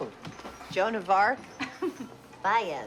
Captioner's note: chuckles